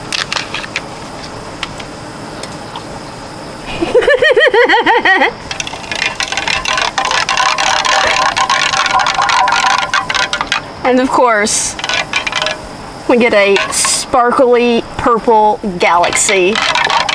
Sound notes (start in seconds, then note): 3.6 laughs happily; 5.5 spoon clinking loudly AGAIN